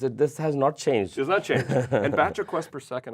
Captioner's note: laughs